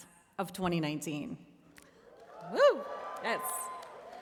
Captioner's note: cheering